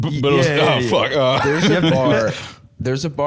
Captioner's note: laughs